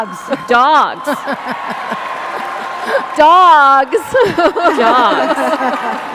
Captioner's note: laughter